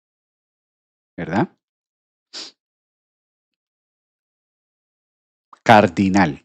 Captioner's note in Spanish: resoplido